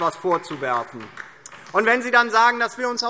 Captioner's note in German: Beifall DIE LINKE